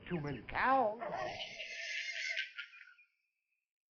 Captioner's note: laughter